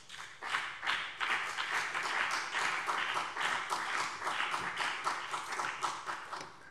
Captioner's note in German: Beifall BÜNDNIS 90/DIE GRÜNEN und CDU